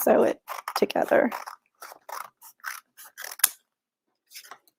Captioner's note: scissors snipping